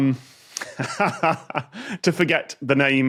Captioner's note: chuckles